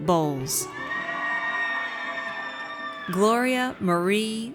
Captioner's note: audience cheers